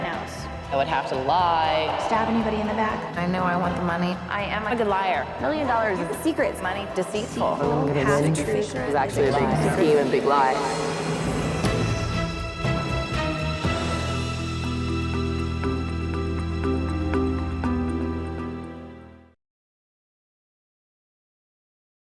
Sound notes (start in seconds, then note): 8.8 contestants chattering; 11.3 dramatic music